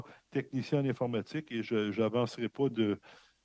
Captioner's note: speaking french